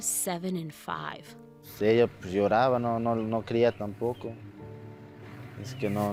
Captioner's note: speaking in foreign language